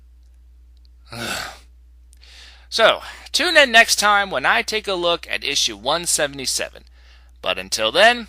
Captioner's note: sigh